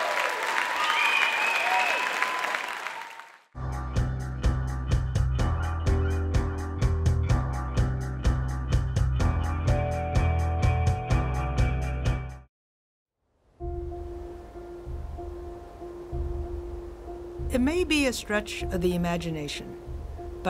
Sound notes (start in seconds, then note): 2.5 cheering and applauding; 12.4 upbeat music; 16.3 peaceful tone